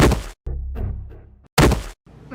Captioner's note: slam; slam